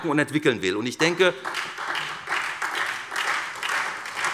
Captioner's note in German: Beifall SPD